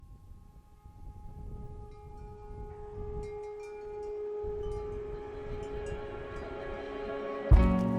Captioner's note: soft breeze and wind chimes